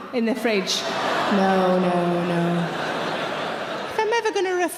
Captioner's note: audience laughing